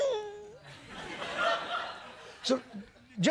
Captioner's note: laughter